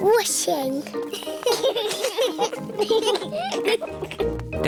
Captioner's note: children giggling